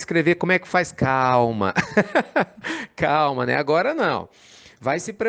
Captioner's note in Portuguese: Risos